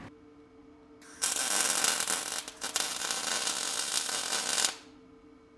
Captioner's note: metal sizzling